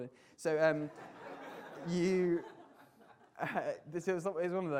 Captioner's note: audience laughter